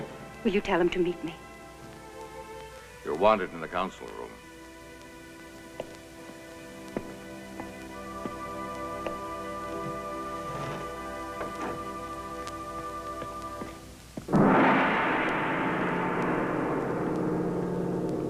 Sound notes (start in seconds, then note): 14.3 gong banging